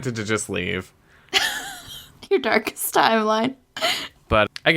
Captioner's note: laughs